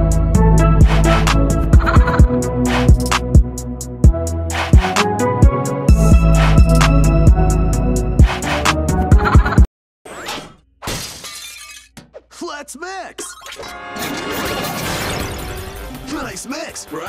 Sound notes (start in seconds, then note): 0.0 introduction Music; 1.1 glass Smashes